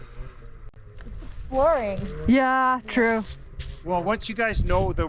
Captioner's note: snow mobile engine revving